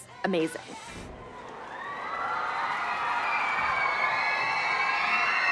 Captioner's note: cheering